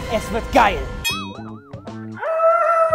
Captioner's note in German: Boing